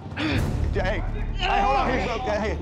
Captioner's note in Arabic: تأوه